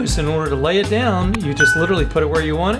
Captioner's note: bell dings